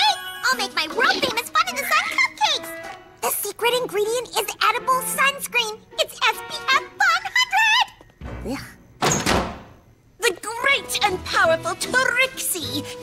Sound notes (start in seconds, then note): 9.0 door opens